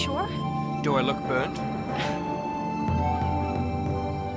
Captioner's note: scoffs